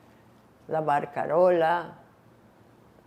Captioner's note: non-english